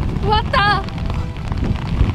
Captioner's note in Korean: 강한 비바람 소리